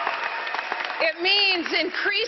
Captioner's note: applause